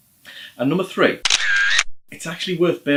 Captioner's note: camera shutter